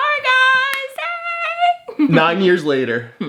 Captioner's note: laughs